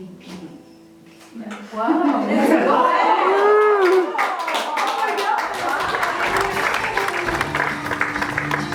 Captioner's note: applause; music with applause